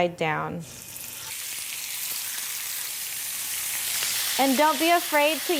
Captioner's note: chicken sizzling